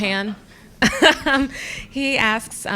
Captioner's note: laughter